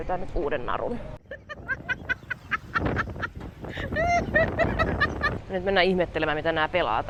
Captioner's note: laughs